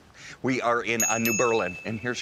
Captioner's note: bell dings